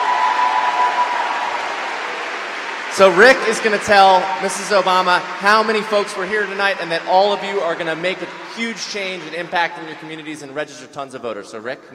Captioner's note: cheering